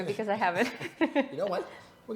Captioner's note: both chuckling